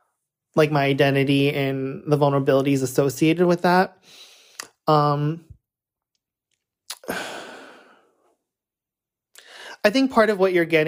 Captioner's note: sighs